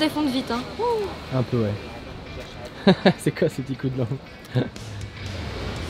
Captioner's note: laughs